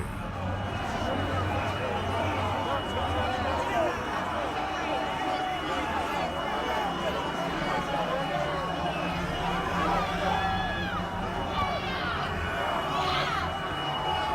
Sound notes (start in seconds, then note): 2.4 crowd yelling, cheering; 6.6 alarm sounding